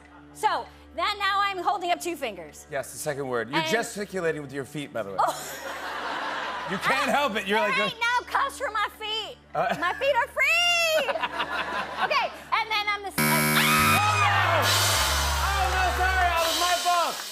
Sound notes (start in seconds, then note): 5.2 laughter; 13.2 buzzer